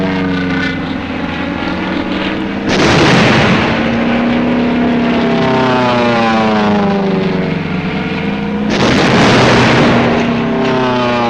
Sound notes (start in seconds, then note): 2.6 explosions booming; 4.8 planes roaring; 8.6 explosions booming